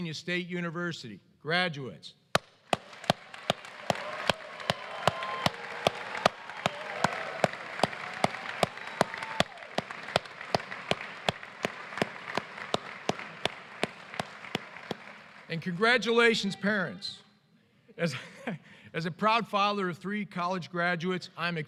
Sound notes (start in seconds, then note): 5.2 applause